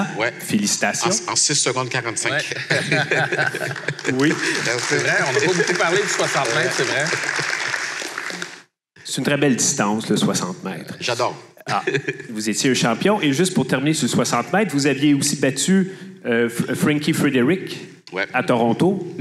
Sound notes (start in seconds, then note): 2.3 laughs; 7.2 applause